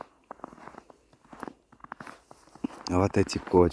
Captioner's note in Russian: снег скрипит